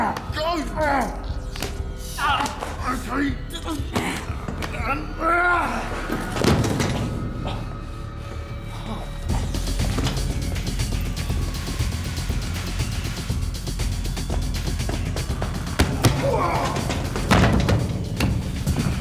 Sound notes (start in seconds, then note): 6.3 thuds; 9.4 music intensifies; 15.7 grunts, thuds